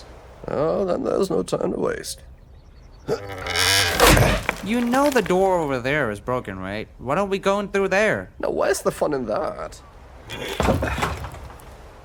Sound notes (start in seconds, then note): 3.2 wood creaks and snaps; 10.5 more wood breaking